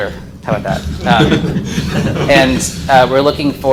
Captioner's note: audience laughs